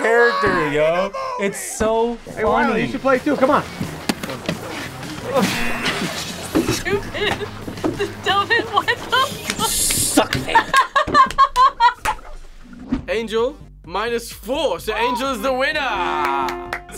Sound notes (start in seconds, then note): 0.0 laughs; 5.2 laughs; 5.2 buzzer; 9.9 both laugh